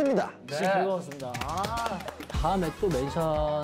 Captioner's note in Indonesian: tepuk tepuk tepuk